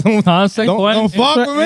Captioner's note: speaking In Foreign Language